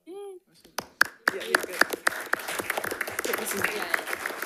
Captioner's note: attendees clapping